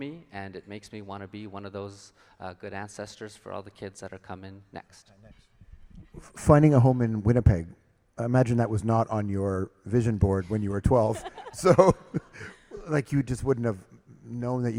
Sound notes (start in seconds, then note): 11.0 laughs